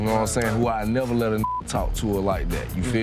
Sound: beep

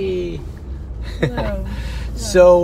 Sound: laughs

